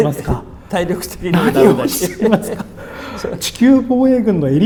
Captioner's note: laughs